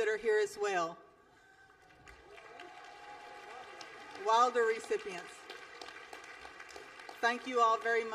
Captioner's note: applause